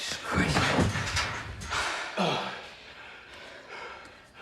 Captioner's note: pauly and leroy panting